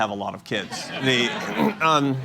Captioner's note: laughter